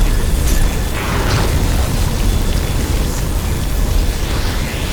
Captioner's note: explosion booming